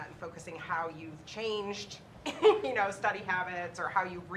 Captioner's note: laughs